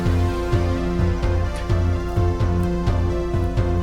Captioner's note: spits